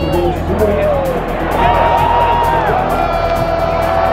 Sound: crowd cheers

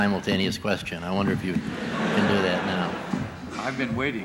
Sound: laughter

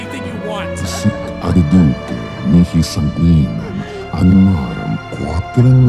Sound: demon speaks in foreign language

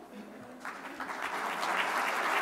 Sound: applause

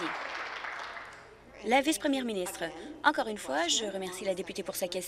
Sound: applause

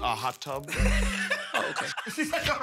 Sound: laughing

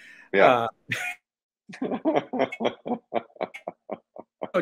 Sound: both chuckling

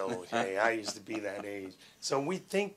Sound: interviewer laughing

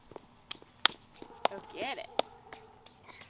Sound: clapping

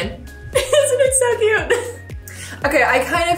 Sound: laughing

